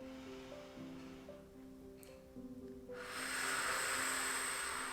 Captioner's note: inhaling + Exhaling